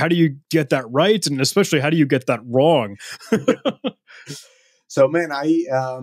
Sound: chuckles

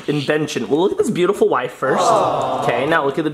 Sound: crowd awwing

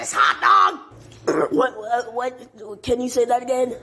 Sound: burp

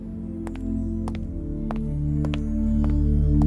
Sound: footsteps

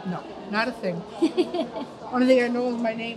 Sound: laughs

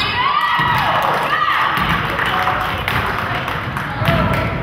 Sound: crowd cheers

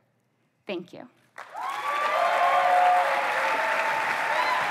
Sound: applause

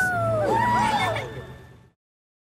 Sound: cheering

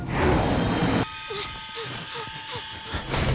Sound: panting

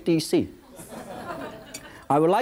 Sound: audience chuckles

